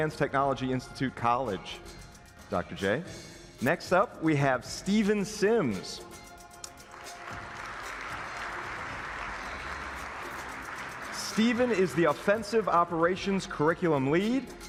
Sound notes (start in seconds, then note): 6.8 applause